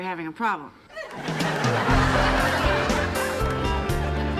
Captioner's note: audience laughing; upbeat music